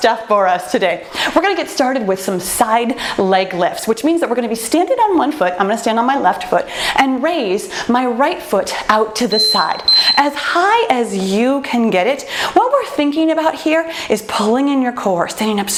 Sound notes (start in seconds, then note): 9.3 timer beeps